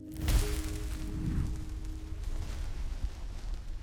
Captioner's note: fire crackling